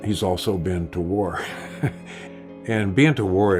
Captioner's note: chuckling